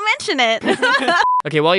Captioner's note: obviously very extremely scripted fake laugh